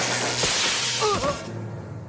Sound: screaming; grunting

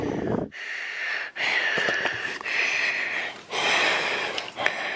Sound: heavy breaking

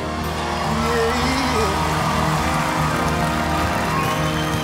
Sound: audience clapping

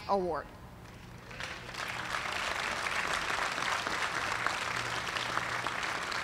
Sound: applause

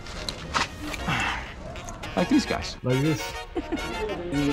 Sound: chews; sighs; man giggling

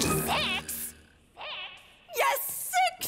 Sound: voice echoing

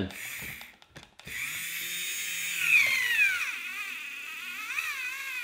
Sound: laborious whirring

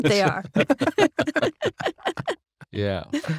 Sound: everyone laughs

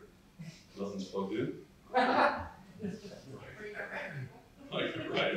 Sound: laughter

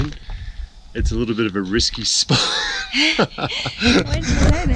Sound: laughs

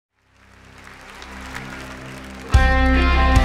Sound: audience applauds

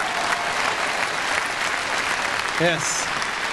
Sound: audience applause

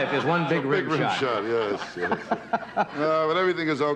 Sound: laughs

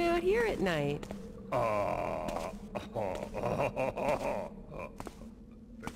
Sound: Benny laughs oddly

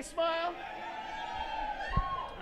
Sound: cheering

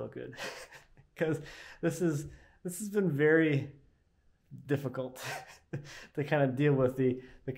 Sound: laughing; laughing

